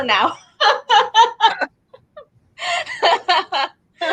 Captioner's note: laughing